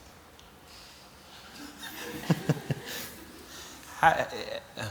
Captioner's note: laughter